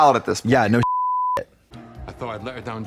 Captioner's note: beep